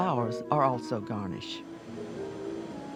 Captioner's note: voiceover